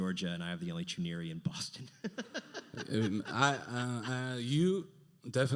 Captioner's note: laughs